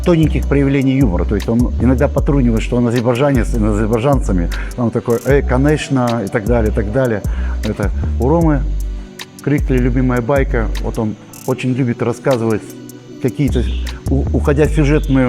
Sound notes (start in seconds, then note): 5.7 speaking with an accent